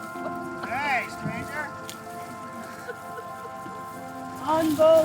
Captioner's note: chuckling